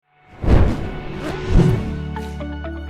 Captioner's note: air whooshing; soft music